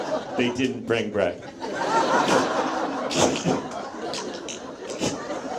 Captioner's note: audience laughs